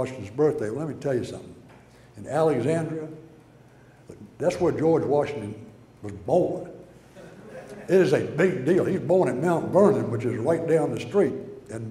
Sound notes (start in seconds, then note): 7.1 audience laughter